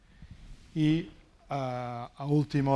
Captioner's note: speaking spanish